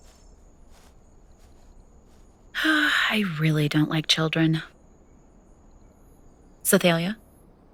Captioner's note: walking sounds recede; sighing